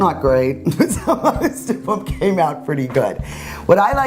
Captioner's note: laughs